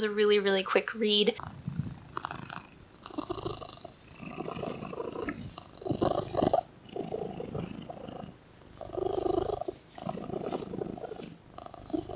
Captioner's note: cat purring, almost squeaky